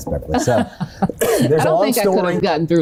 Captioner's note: laughs